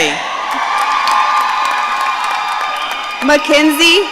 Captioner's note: audience cheering